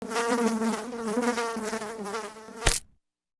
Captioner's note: fly buzzing; fly splatting